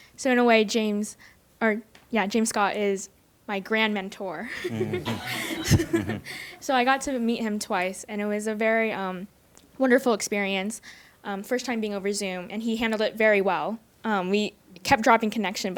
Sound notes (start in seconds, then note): 4.5 audience laughs